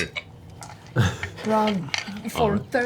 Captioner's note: laughs